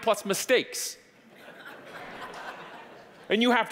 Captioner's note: audience laughing